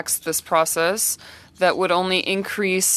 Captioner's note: speaking French